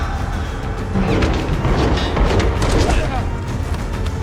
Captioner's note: gunshots boom